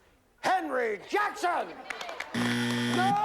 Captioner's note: buzzer